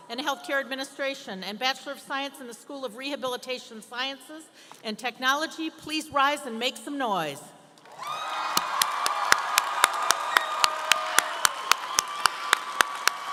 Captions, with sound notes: and Healthcare Administration, and Bachelor of Science in the School of Rehabilitation Sciences and Technology, please rise and make some noise. (audience cheering & applauding)